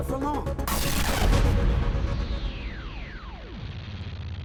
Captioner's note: static noise